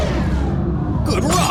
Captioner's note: ship-whooshing transition to the Council